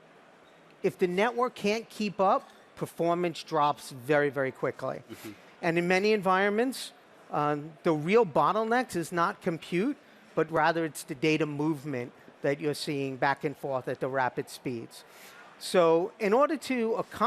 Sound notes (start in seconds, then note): none